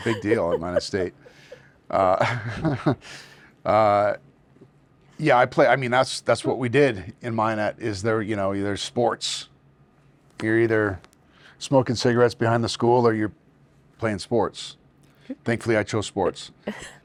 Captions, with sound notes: - Yeah, I was a big deal at Minot State. (Josh chuckling) Yeah, I mean, that's what we did in Minot, is there, you know, either sports. You're either smoking cigarettes behind the school or you're playing sports. Thankfully I chose sports.